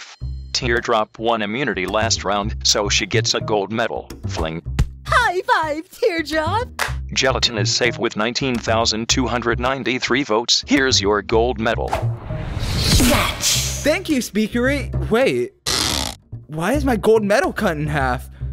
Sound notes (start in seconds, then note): 6.6 clap; 11.8 "Snatch!" sound effect